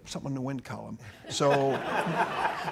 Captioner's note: audience laughing